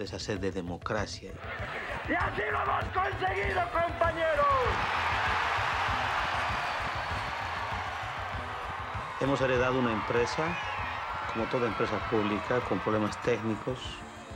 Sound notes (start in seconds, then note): 2.1 speaking foreign language; 4.8 crowd cheering; 9.2 speaking foreign language